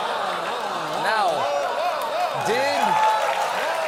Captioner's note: cheers and applause